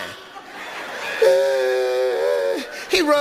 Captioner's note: Steve imitates Ricky crying